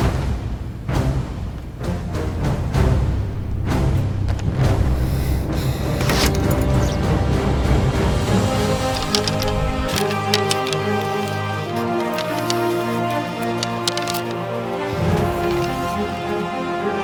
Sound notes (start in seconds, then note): 6.1 arrow whooshes; 8.5 arrow clatters